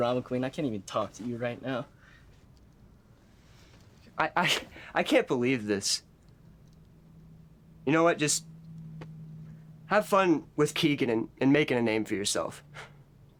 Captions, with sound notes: I can't even talk to you right now. I, I, [chuckles] I can't believe this. You know what, just have fun with Keegan and, and making a name for yourself.